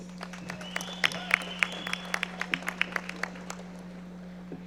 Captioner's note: audience applauding